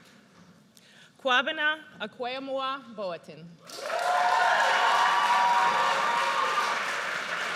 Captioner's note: audience cheers